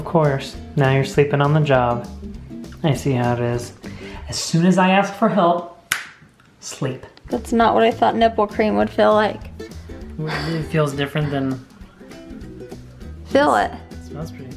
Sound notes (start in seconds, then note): 5.9 snaps fingers